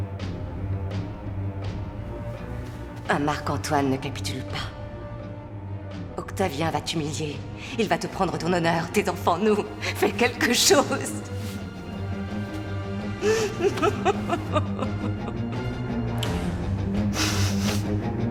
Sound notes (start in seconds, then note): 13.1 sobbing; 15.4 dramatic music